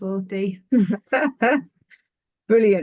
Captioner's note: chuckling